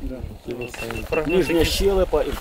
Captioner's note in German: Pieptöne